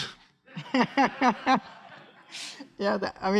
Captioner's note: laughs